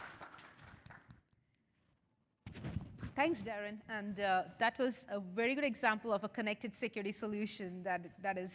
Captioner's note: applause